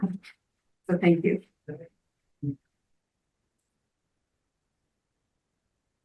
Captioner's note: speaking faintly